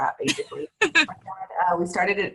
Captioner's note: laughing